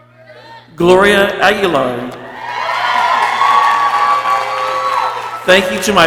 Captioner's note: people cheering